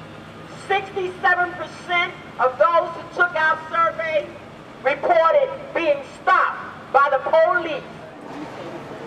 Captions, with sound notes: - [Female Through Megaphone] 67 percent of those who took our survey reported being stopped by the police.